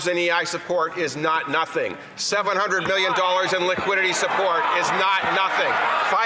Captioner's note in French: voix de l'interprète